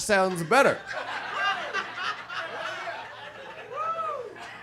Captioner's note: audience laughs